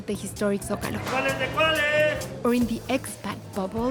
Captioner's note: shouts in Spanish